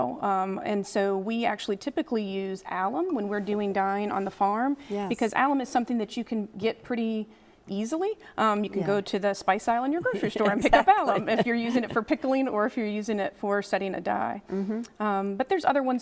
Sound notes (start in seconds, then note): 10.0 chuckles